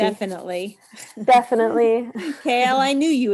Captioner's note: laughs